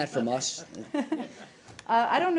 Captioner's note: laughter